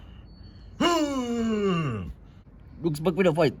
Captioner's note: gorilla noises